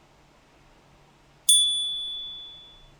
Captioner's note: chime